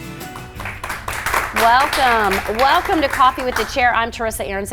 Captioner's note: audience applauds